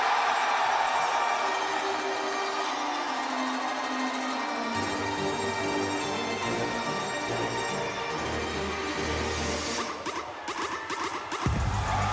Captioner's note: cheers & applause